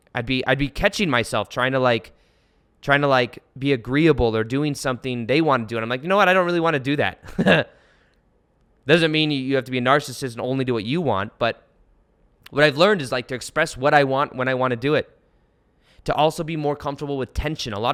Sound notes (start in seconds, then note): 7.2 chuckles